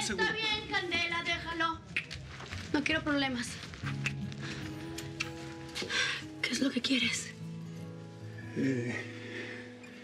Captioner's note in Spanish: chasquidos de dedos